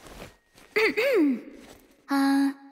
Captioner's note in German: räusper